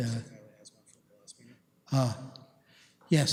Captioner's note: comments off mic